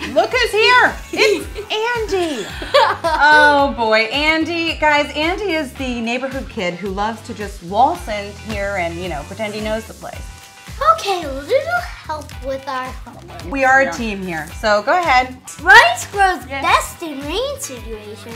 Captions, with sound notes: Look who's here, it's Andy. (laughter) - Oh boy, Andy, guys Andy is the neighborhood kid who loves to just waltz in here, and pretend he knows the place. - Okay a little help with our homework. - We are a team here, so go ahead. - Rice grows best in rain situations.